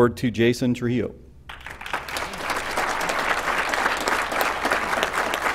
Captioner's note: applause